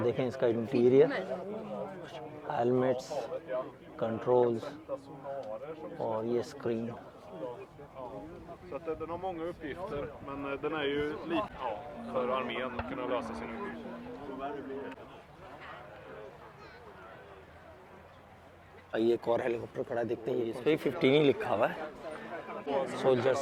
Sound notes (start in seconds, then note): 7.8 people speaking